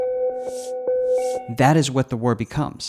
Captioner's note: slow dramatic music; animation whooshing